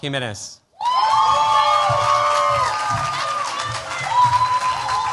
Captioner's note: cheers, applause